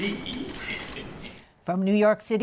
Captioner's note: chuckles